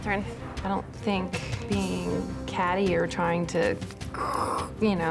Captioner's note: mimics cat hissing